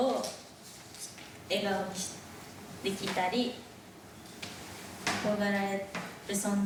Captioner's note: speaking in foreign language